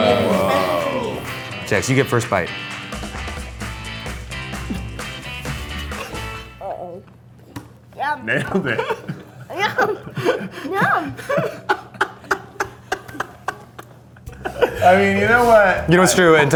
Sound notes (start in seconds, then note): 6.0 Eugene laughs